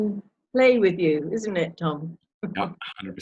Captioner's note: chuckling